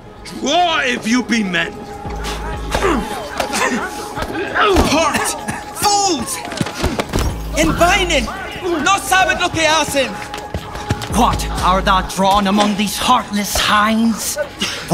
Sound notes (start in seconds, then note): 2.1 brawling